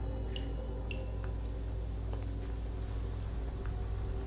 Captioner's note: water dripping